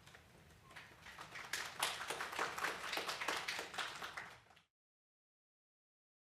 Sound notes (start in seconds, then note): 0.4 applause